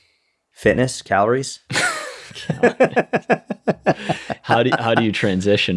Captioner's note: chuckle